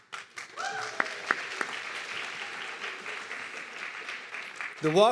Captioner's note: audience clapping and cheering